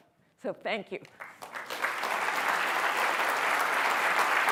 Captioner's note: applause